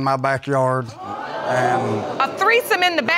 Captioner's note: audience exclaiming